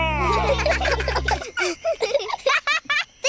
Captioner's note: children giggle